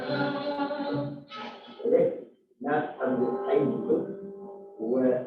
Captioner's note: non-english speech